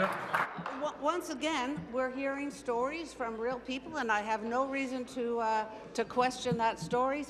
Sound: applause

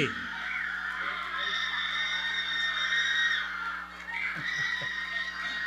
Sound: audience cheering

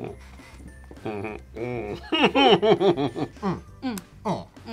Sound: laughs

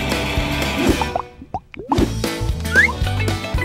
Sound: music stops and suds popping; upbeat music

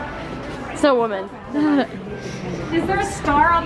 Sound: laughs

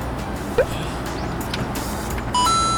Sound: sigh

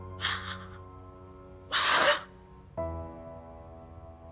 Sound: crying

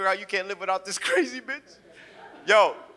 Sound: audience chuckles

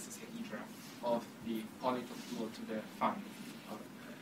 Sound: speaking faintly

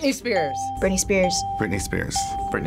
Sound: bell rings

